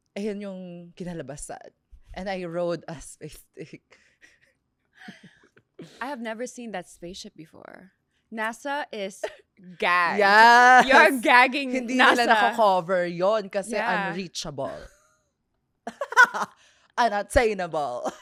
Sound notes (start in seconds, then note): 4.3 laughs; 16.1 laughs